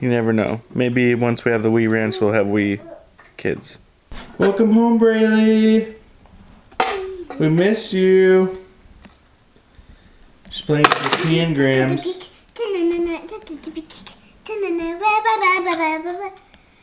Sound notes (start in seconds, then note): 10.8 clank; 12.7 singing